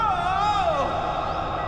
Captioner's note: murmuring